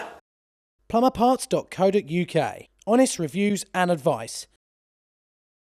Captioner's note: voiceover